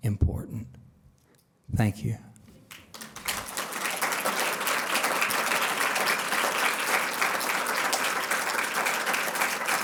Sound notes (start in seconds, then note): 2.6 applause